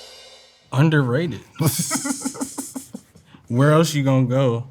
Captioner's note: cymbals crash; drum rolls; laughing